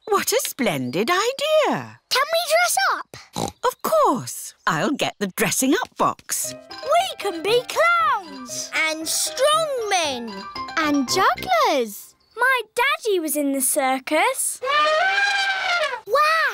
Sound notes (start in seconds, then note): 3.2 snorts; 14.6 trumpets